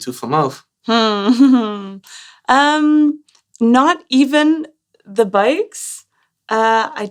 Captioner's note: laughter